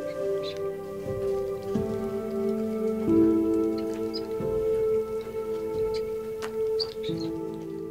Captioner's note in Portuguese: sussurros de uma oração